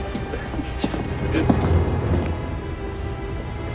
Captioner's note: sailors laughing